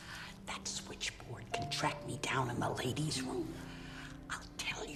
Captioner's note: whispering